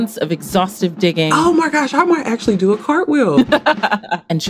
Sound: laughs

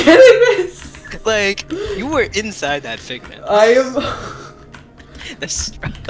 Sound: laughing through tears

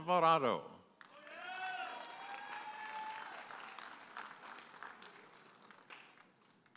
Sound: audience applauding and cheering

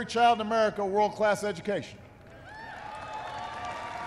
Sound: applause

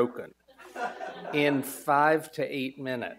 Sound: audience laughs

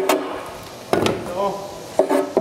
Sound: Ferner Ruf

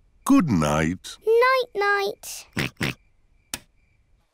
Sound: oinks

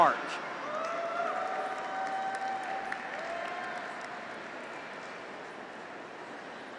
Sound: graduates cheer; audience applauds

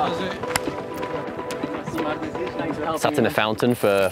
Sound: hands clap

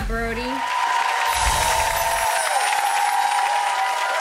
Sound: audience cheers

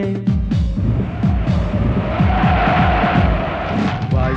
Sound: wind gusting

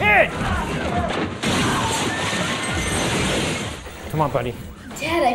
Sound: glass breaking

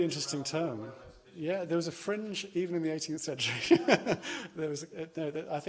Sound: laughs

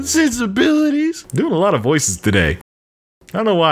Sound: regular voice

